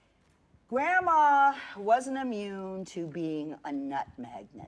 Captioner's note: none